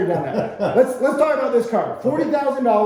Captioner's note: laughing